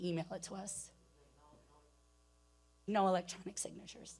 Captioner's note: speaking away from mic